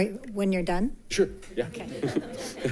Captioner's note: attendants laughing